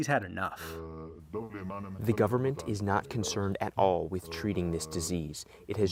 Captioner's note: through translator